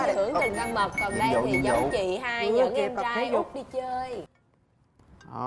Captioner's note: quest notification